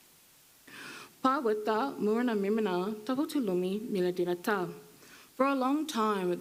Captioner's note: speaking foreign language